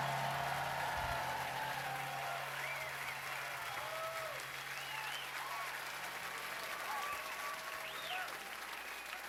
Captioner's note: cheers and applause